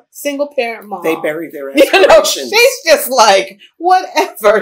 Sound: laughs

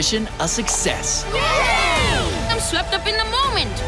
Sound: cheering

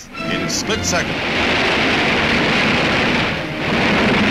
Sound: loud rumbling

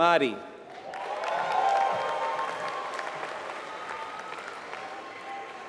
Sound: applause

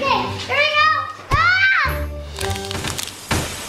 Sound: Adley yelling; egg hatching

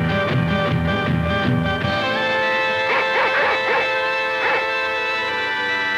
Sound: dogs barking

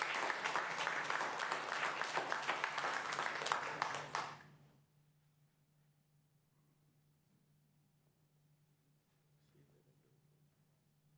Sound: applause

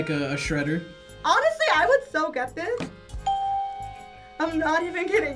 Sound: bell rings

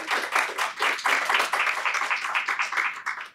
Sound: applause

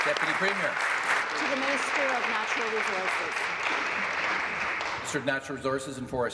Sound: applause

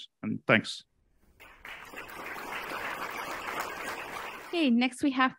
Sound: crowd clapping

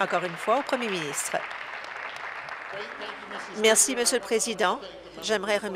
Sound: applause

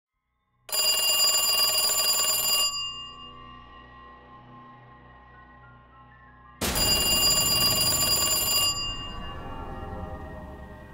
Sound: phone ringing

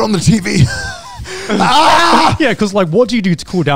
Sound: yells

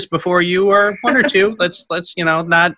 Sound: laughs

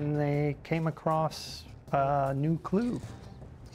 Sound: voiceover

